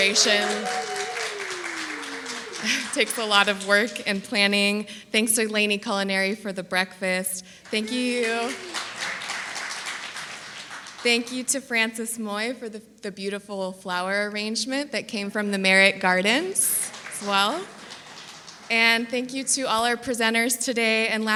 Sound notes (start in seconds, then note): 0.0 applause and cheering; 7.6 applause; 16.3 applause